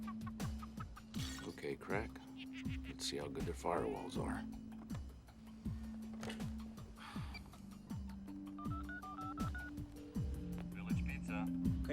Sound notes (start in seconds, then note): 8.6 dials telephone number